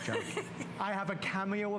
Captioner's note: laughter